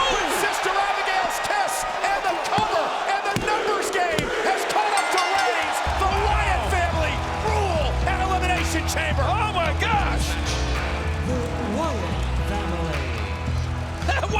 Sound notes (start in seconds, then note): 4.8 bell rings